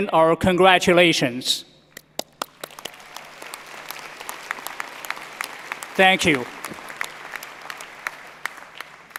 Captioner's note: applause